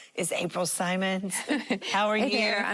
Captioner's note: laughing